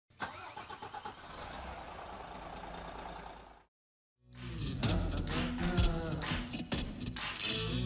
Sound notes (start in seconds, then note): 0.2 engine turning over; 4.3 upbeat music